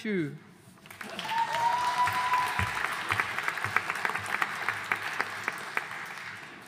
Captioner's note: audience cheering and applauding